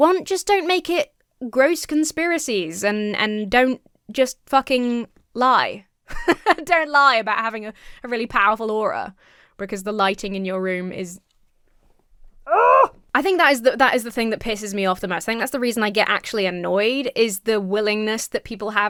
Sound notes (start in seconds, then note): 6.1 laughs; 12.4 groans